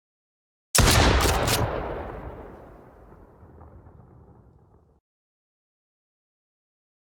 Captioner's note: gun blasts; gun clicks